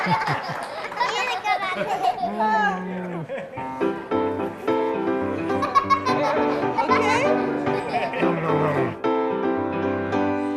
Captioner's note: cheers, Laughter